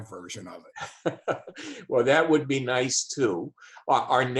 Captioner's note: laughs